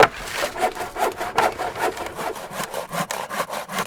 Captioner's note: saw cuts loudly